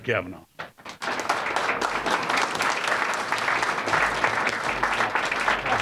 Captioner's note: audience applauding